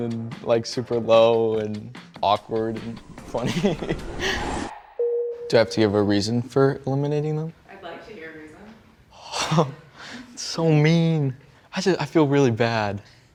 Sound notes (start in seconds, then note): 3.4 laughs; 4.9 tone chimes